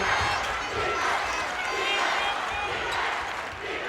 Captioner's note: crowd chants